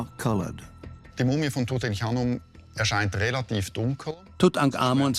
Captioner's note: speaks German